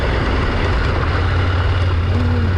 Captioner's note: motorcycle engine